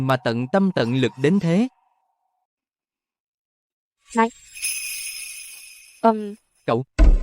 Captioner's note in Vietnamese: chuông